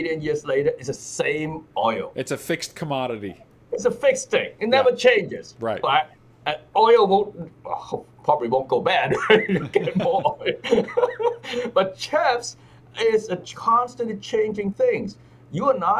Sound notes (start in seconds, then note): 11.2 laughs